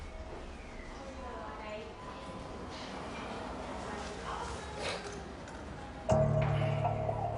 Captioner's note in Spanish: Bullicio